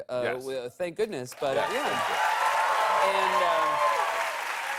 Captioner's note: cheers and applause